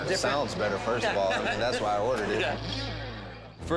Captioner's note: laughs